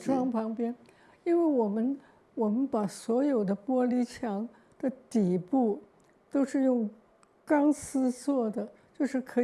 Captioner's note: Mandarin; Mandarin